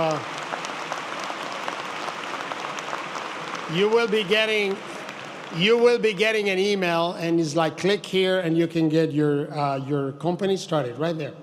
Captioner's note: applause